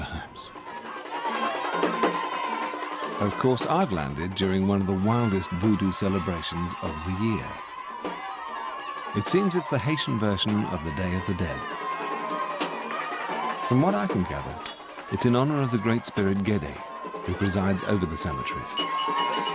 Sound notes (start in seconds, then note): 0.9 chanting; 0.9 drum beats